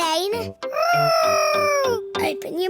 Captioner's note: imitating aeroplane